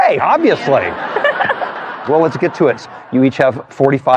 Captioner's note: laughter